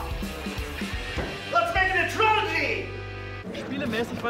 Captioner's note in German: Er ruft etwas auf Englisch